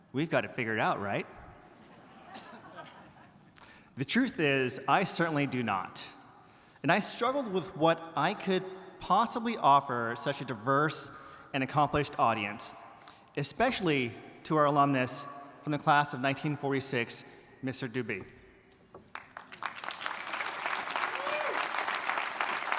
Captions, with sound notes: We've got it figured out, right? (audience chuckles) The truth is, I certainly do not, and I struggled with what I could possibly offer such a diverse and accomplished audience especially to our alumnus from the class of 1946 Mr. Dube. (audience applauding)